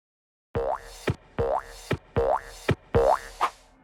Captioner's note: bouncing sound